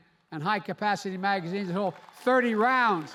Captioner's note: applause